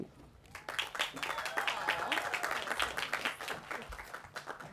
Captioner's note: applause